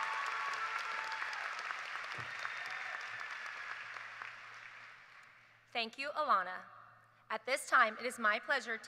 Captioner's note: cheers and applause